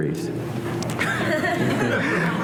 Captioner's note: laughter